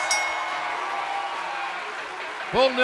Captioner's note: bell ringing